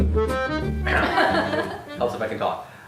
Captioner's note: laughter